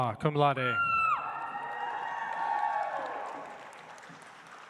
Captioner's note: audience applauds